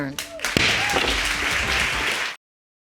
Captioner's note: bangs gravel